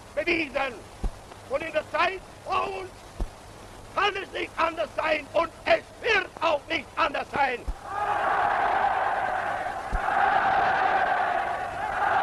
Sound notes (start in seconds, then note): 7.8 crowd cheers